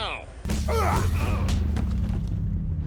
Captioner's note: grunting